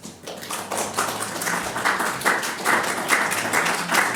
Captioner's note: audience applauds